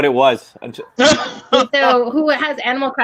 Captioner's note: laughing